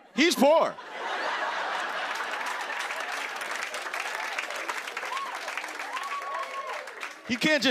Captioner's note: laughter and applause